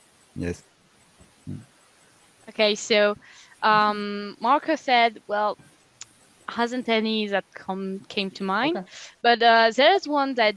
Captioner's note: translating from French